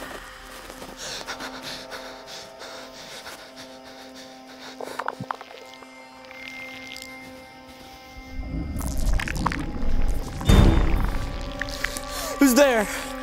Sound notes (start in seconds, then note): 4.7 alien noises; 7.8 alien noises